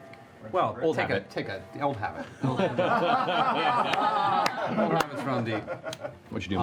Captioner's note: laughter